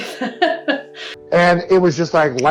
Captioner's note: laughs